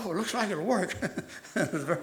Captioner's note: laughs